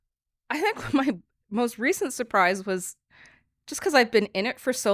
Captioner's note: chuckles